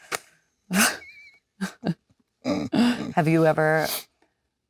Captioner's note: Leonardo and Jennifer laughing